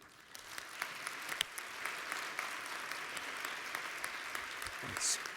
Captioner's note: applause